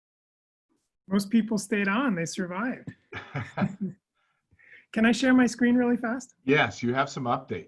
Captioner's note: chuckles